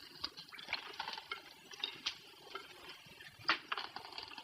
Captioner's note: water dripping